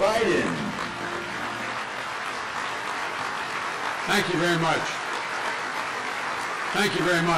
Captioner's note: clapping